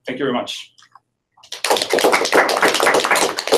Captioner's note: applause